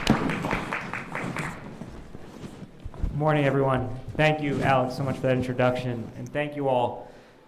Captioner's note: applause